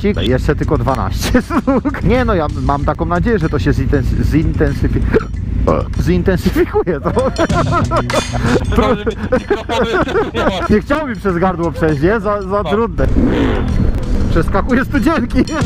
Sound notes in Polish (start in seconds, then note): 5.1 czkawka; 5.1 beknięcie